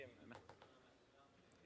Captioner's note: speaking French